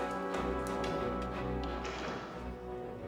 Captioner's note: door opens